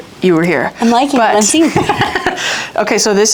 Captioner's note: giggles